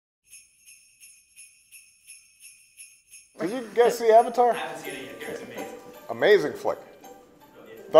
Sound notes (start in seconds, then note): 0.2 jingling bells